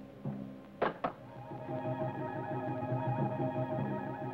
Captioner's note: rock clacks